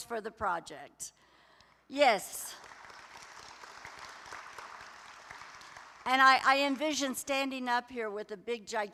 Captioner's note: applause